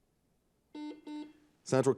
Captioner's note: buzzer beeping